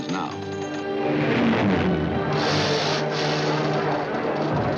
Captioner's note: crow wings whirring